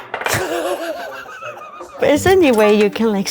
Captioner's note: laughs